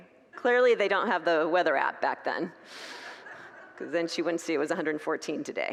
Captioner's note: congregants laugh